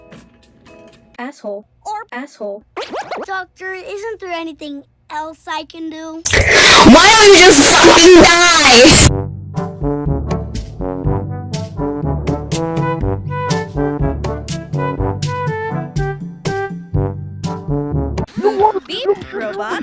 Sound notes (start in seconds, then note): 6.3 i n h a l e